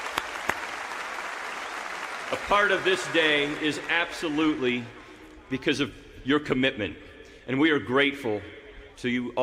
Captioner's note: applause